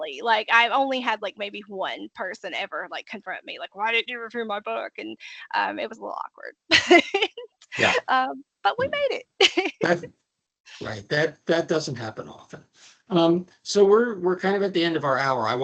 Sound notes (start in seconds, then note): 6.6 laughing